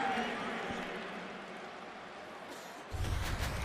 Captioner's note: pa announcement